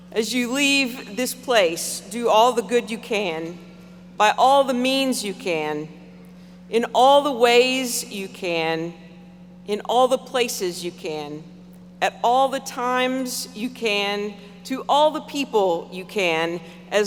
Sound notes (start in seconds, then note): none